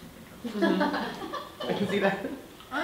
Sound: audience laughing

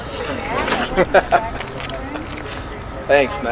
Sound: laughing

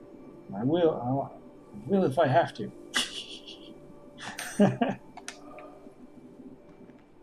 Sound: laughs softly

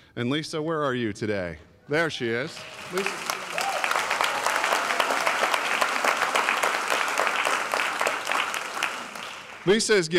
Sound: applause

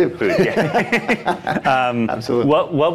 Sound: laughing

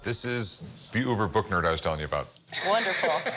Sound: laughs

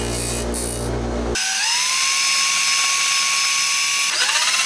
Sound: drill whirring

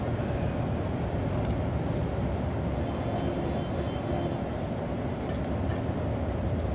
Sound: traffic sounds, more honking

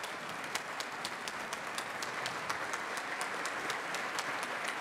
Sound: clapping loudly

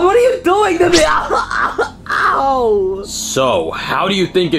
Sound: yells

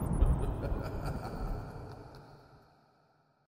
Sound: thunder rumbling; sinister laughter

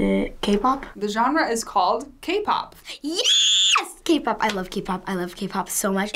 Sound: screams

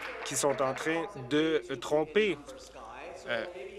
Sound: applause

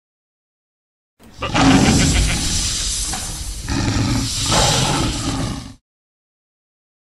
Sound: roar of chimera

